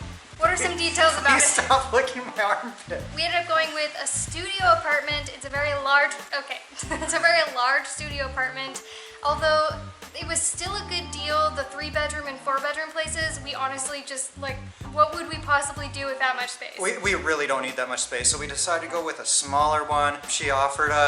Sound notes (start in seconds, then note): 1.2 laughter; 6.7 laughter